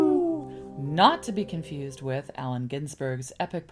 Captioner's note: howling